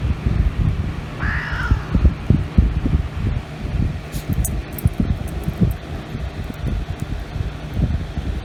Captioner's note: Caprice meows and growls